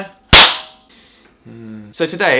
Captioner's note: sniffs